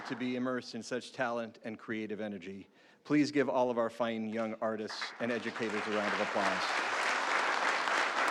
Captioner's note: applause